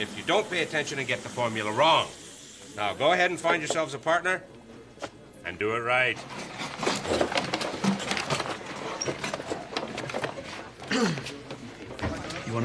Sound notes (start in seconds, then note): 0.0 chemicals hiss; 6.0 stationary clattering; 10.8 Eric clears throat